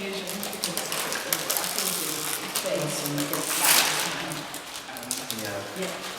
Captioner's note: crisp packet noise